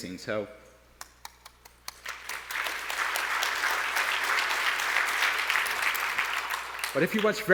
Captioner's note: applause